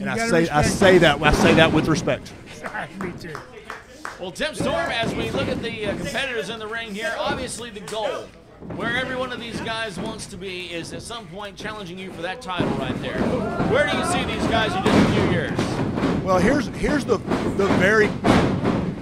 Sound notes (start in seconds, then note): 2.4 laughs